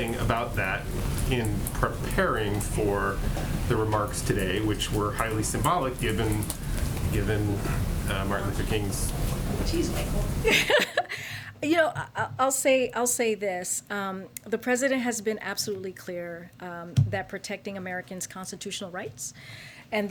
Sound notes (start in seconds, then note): 10.1 laughs